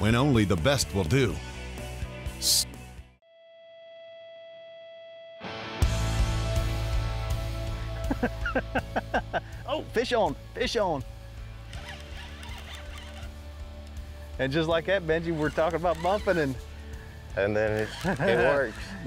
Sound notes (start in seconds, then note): 5.6 intense music; 10.6 laughs